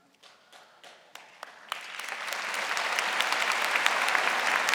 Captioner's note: audience applauding